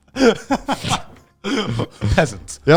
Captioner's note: laughing